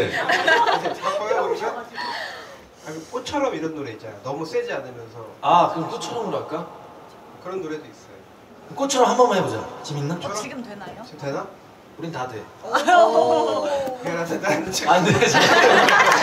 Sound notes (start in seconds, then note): 12.7 shouts